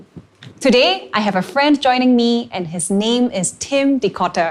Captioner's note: none